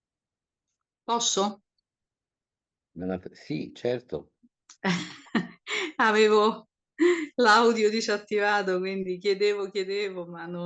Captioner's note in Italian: risate